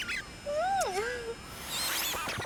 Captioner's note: kiss